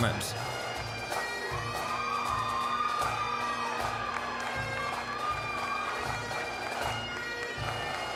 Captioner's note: applause, cheering; bagpipe music